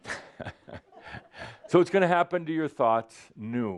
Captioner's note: audience is saying “Ugh!” and chuckles